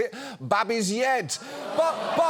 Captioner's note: audience groans